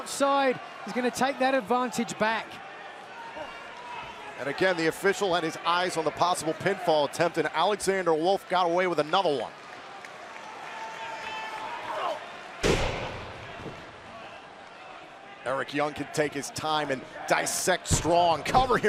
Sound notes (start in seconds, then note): 9.0 crowd chatter